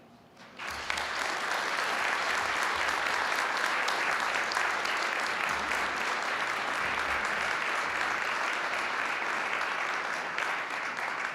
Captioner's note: applause